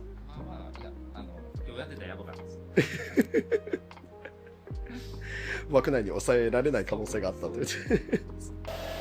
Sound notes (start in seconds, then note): 2.8 laugh